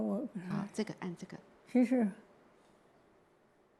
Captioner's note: Mandarin